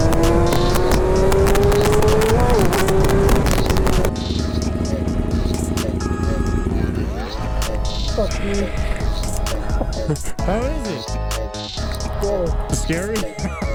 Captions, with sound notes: (engine revving) (clapping) Whoa. Fuck you. How is it? Scary. Scary?